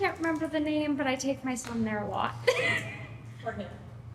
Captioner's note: laughter